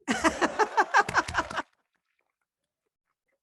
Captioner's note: laughs